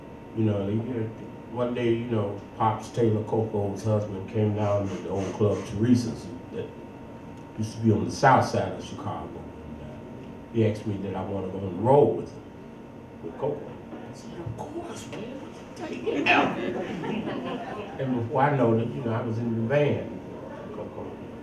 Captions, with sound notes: And, you know, they here one day, Pops Taylor, Koko's husband, came down to the old club, Theresa's, that used to be on the South Side of Chicago, and he asked me did I want to go on the road with Koko. I said, "Of course, man, what you think? Get out of here!" (audience laughs) And before I know it, I was in the band with Koko.